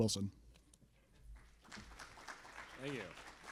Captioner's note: applause